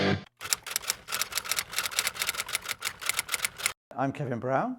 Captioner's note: typewriter clicking